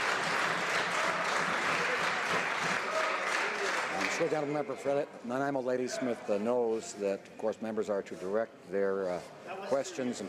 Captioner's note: some Applause